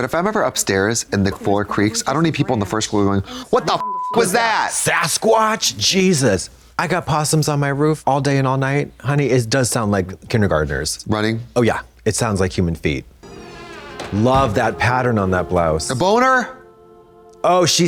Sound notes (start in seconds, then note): 3.8 beep